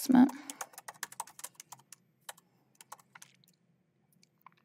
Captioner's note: keyboard clacking